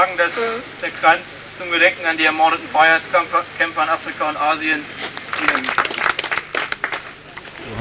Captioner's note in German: Applaus